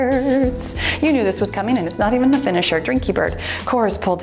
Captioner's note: timer beeps